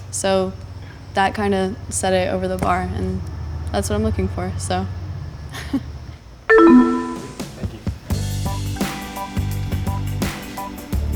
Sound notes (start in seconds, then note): 6.5 chime; 8.5 happy music